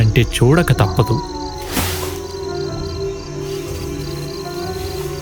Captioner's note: jackals howling